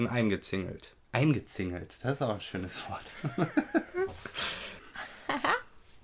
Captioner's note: laughs